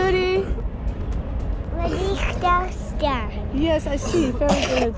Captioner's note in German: spricht in einer fremden Sprache